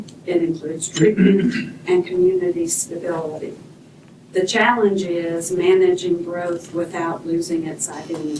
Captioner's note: clears throat